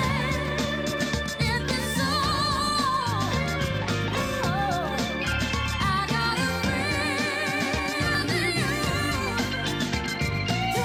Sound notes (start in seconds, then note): none